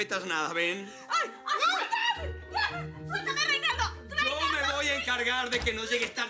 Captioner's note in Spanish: Gritos y exclamaciones